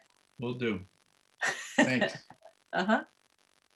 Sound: laughing

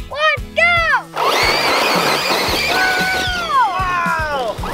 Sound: gears whirring

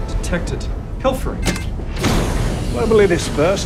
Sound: panel beeps, door whirs

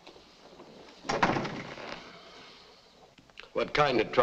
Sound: door thuds shut

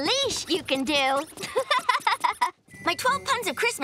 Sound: laughing

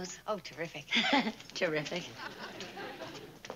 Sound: laughs

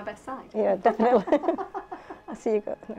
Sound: laughs

